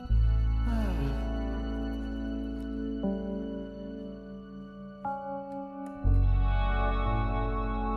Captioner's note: sighs